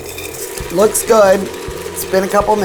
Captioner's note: whirring